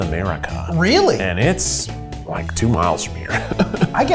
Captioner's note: laughs